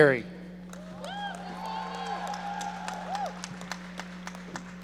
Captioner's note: audience cheering